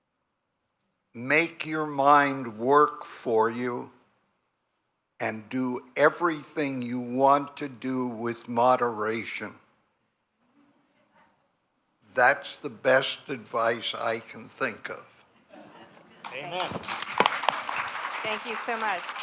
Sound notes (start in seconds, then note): 16.2 applause